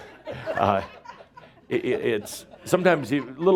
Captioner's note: some chuckles